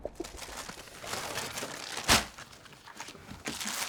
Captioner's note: paper rustling